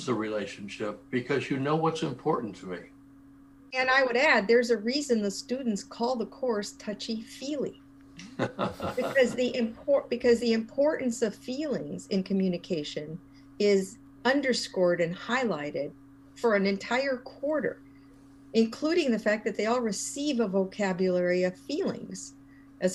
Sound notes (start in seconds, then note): 8.2 laugh